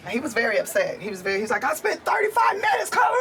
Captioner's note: impersonating angry man